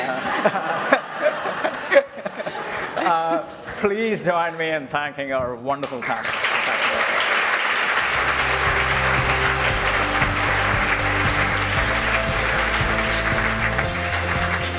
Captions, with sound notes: [LAUGHTER] Please join me in thanking our wonderful panel. [APPLAUSE]